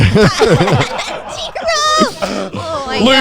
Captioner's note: everyone laughing